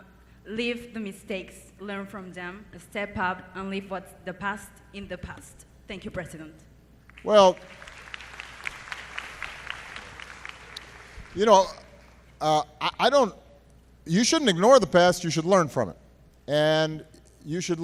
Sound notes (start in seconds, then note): 11.7 applause